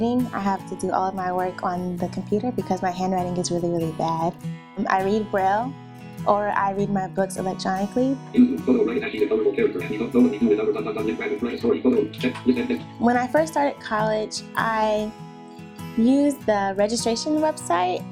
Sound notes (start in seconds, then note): 8.2 synthesized speech